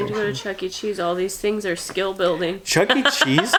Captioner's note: laughs